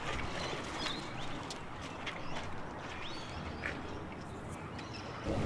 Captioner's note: bird chirps